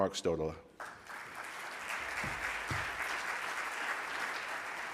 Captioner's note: audience applauds